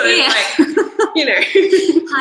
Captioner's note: laughter continues